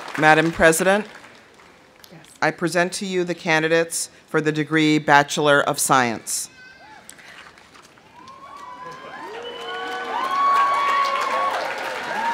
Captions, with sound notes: Madame President, I present to you the candidates for the degree, bachelor of science. (audience cheering) (audience applauding)